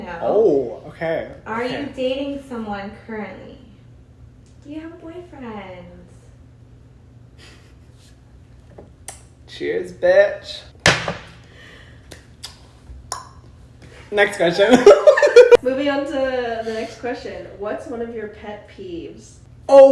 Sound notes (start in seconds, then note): 10.8 glass slams; 14.6 laughs